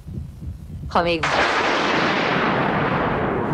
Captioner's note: loud thunderclap